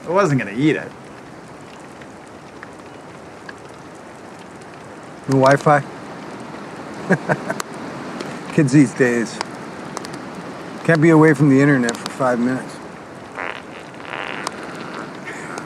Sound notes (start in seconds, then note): 7.0 Rick chuckles; 13.3 Rick farts